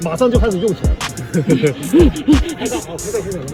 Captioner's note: laughing